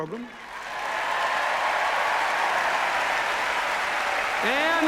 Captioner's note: cheers, applause